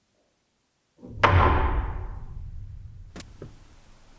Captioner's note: bottle thuds; static crackles